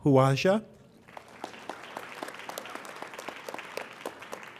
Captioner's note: applauding